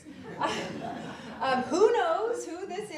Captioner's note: audience laughs